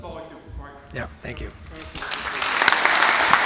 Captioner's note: host chattering; audience applauding